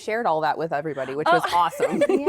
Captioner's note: laughter